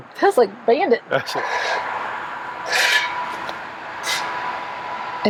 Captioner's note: shovel clattering